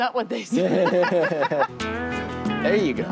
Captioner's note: both laugh